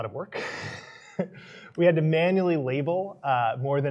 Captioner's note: laughs